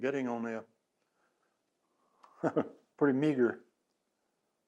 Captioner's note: laughs